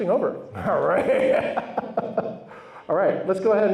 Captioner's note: laughs